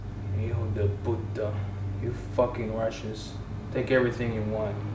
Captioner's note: speaks Spanish